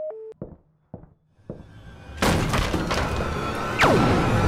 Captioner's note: footsteps outside office getting closer; crall-mox kicks doors open; sound of satmer collapsing; laser gun blast